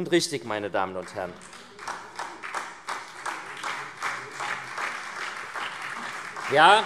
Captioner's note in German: Vereinzelter Beifall SPD und Freie Demokraten